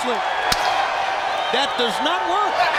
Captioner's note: chop striking